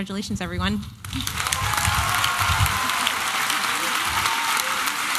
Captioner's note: applause and cheering